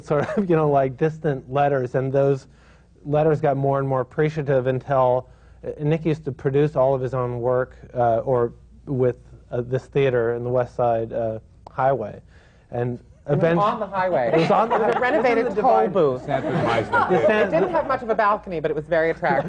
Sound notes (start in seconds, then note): 14.2 laughter